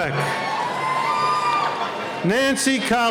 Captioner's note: cheering